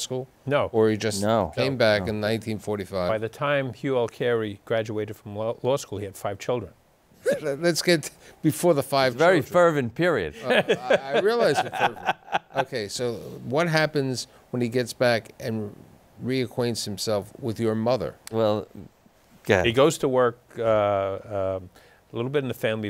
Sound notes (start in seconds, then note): 10.4 laughter